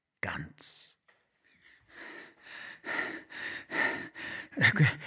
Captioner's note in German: Gehetzt atmend, bewundernd